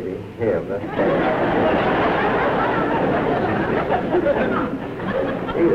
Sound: laughter

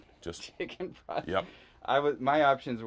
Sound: laughs

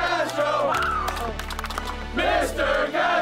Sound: crowd

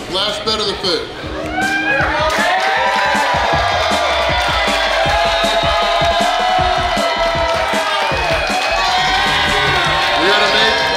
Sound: cheering & Clapping

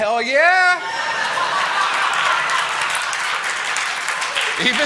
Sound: applause

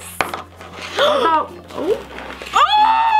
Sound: gasps

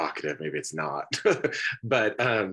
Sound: laughs

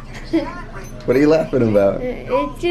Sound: laughs

